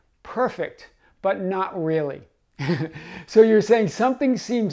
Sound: chuckling

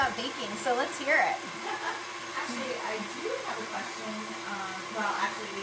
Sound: laughs

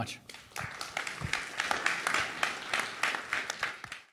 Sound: audience claps

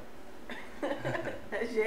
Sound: laughter; laughs

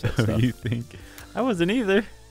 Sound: laughs

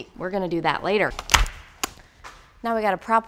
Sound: glove snapping off

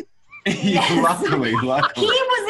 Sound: both laughing

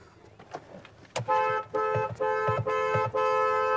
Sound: honking

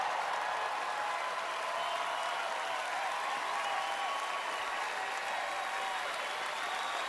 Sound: cheering, applause

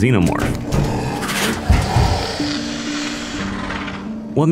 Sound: Xenomorph crawling from vent

